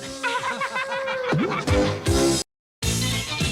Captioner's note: laughter